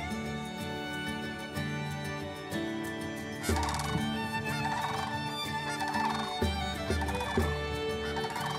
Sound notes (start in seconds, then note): 3.7 bird sounds